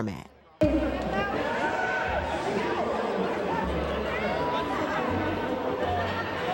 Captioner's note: crowd cheers